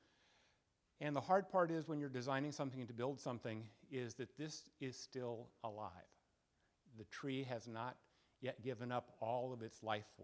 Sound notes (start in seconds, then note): none